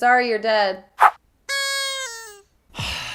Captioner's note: sound effects; long sigh